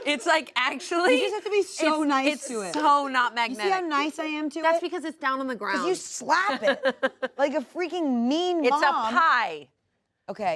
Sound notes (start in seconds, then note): 6.5 laughs